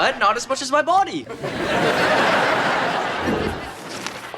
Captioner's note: audience laughter